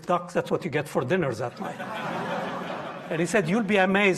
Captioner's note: audience laughing